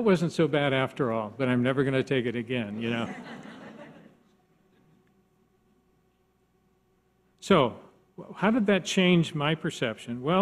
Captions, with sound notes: "that wasn't so bad after all, "but I'm never gonna take it again." (audience laughs) So how did that change my perception?